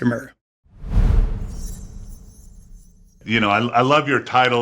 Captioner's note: graphic whooshing